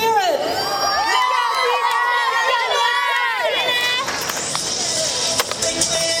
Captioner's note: cheering